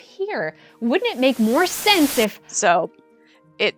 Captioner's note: static